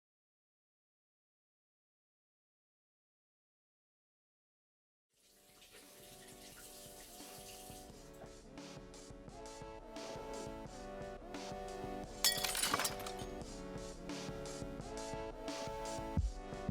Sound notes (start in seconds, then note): 5.2 tap Water Running; 12.2 bottle Breaks